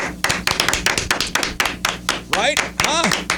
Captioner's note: clapping